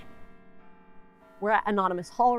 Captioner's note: bells pleasantly chiming